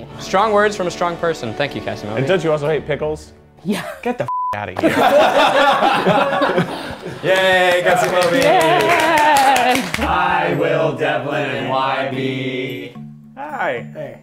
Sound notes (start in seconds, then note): 4.3 beep; 4.8 laughter; 7.1 applause